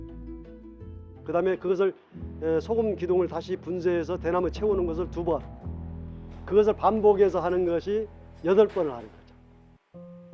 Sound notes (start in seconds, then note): 1.3 speaks in a foreign language